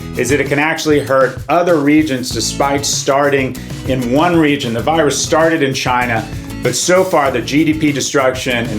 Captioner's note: none